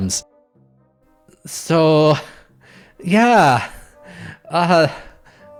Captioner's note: bemusedly